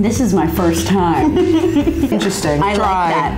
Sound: laughing

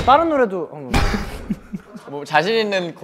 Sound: bursts out laughing

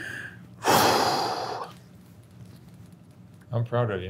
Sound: breathing heavily

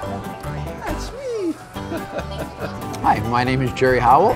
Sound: laughs

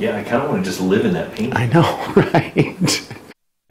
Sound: laughing

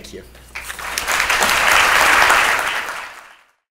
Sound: applause

